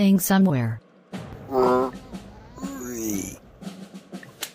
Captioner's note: zombie groan